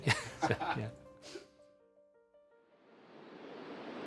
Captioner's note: people laughing; ocean crashing